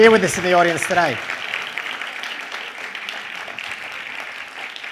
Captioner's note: applause